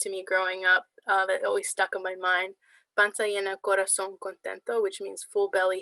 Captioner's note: speaking spanish